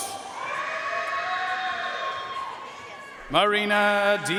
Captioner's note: audience cheering and applauding